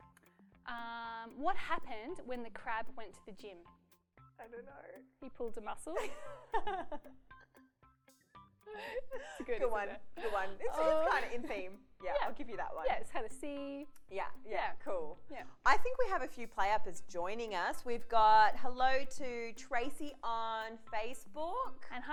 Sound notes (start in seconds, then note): 6.1 laughs